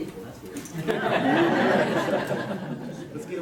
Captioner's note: laughter